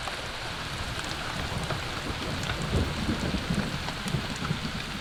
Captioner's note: raindrops pattering